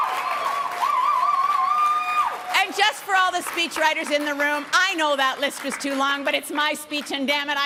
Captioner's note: applause and cheering